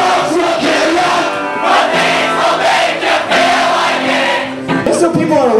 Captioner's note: crowd